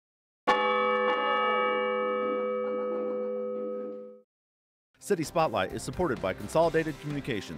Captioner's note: bell tolls